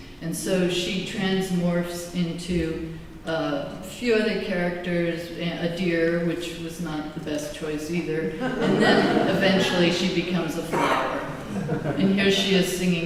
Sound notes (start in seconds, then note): 8.4 laughter